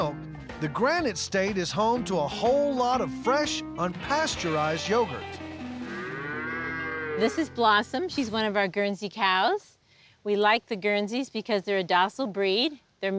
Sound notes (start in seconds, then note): 5.6 cow mooing